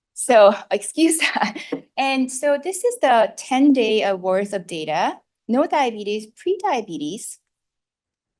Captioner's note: laughs